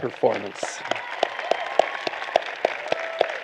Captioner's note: applause